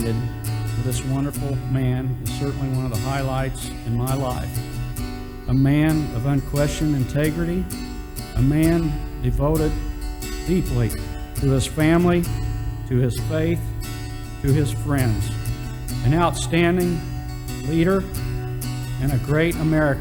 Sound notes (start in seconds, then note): none